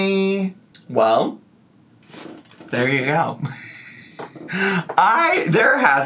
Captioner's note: laughs